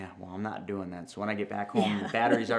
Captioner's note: laughs